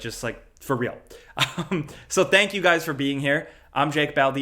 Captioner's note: laughs